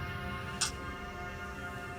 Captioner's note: kisses